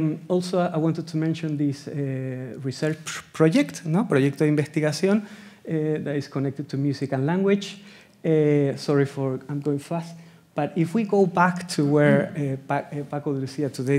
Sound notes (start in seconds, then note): 4.3 speaking Spanish